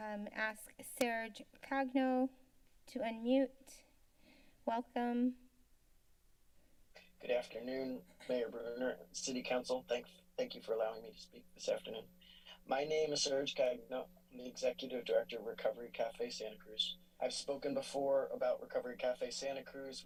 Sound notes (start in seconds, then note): 5.2 silence